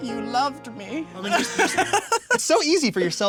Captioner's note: laughing